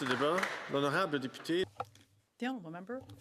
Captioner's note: some Applause